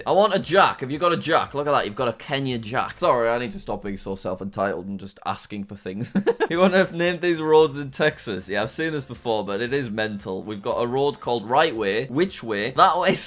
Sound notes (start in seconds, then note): 6.0 laughs